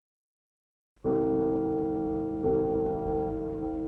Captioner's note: bell ringing